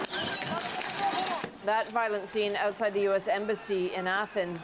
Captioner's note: crowd Noise